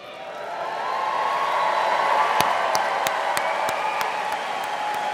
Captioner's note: audience and students cheering